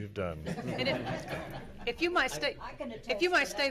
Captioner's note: laughing